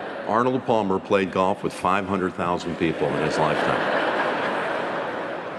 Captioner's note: laughter